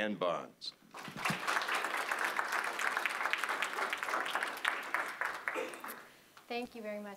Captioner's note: applause